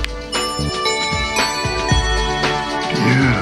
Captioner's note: bell chiming